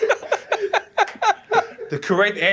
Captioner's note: laughter